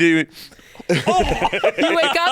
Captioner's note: gags